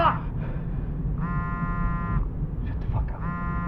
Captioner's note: phone continues to buzz